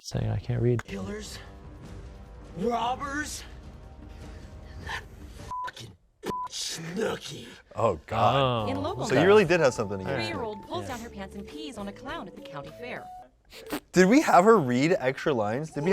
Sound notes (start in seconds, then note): 6.3 beep